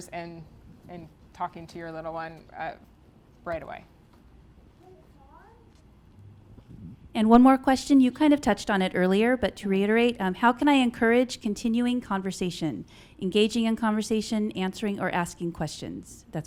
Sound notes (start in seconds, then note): 4.8 child talking